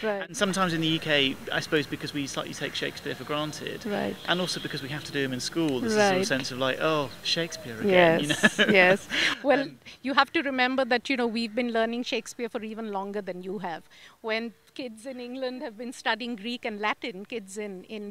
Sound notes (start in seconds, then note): 8.0 laugh